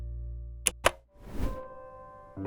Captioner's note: button clicking; soft music